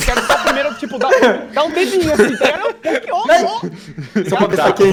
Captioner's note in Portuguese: Risadas